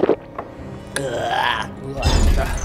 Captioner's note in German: Ekelgeräusche